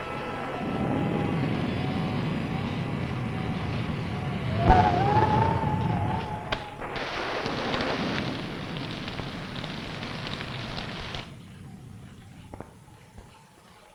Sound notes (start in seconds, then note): 4.6 wind howling; 8.7 rain pattering; 8.7 thunder rumbling